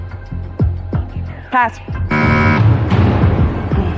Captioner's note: buzzer sounds